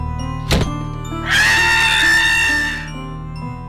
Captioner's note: sound of door slamming shut; sound of screaming